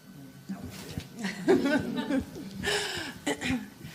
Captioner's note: laughter